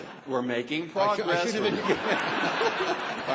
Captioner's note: laughter